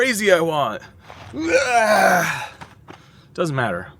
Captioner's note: grunting